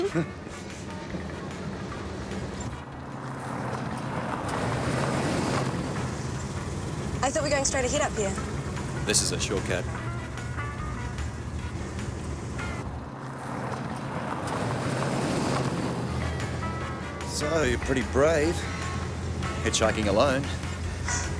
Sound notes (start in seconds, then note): 0.0 both chuckle softly; 3.4 car engine revving; 13.4 van engine revving